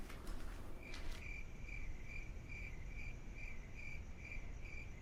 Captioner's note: crickets chirping